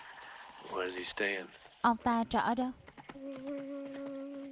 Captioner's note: humming